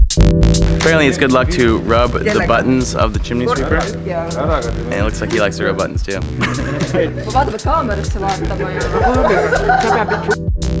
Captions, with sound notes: Apparently it's good luck to rub the buttons of the chimney sweeper…and it looks like he likes to rub buttons too. [Laughter]